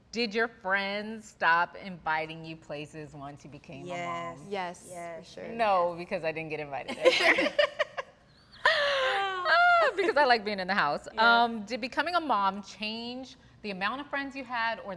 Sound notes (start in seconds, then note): 6.9 all laughing